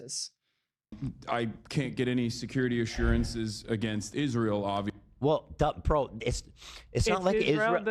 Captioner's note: sniff